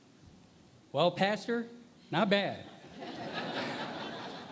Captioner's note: laughter